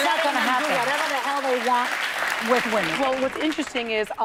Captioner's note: applause